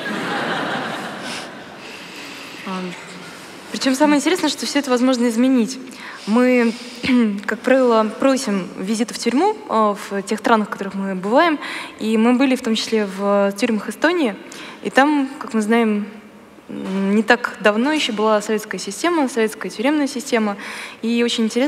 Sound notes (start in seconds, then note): 0.0 laughter; 4.2 foreign Language